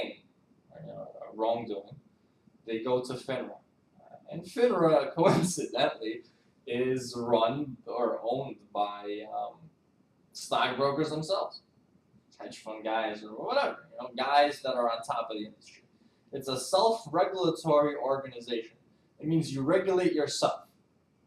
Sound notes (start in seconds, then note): 5.1 laughs